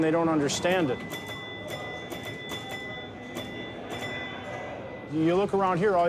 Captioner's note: pinball ding sounds